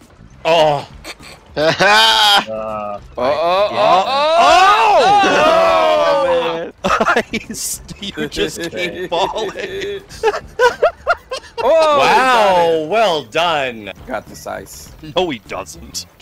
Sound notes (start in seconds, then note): 1.5 laughter; 10.1 hysterical laughter